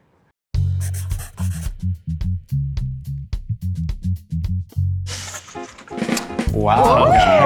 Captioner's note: pencil scribbling; jazz music